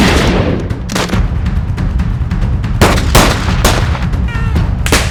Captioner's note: guns firing